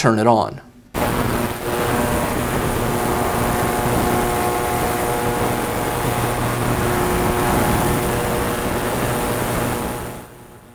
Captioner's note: electronic buzzing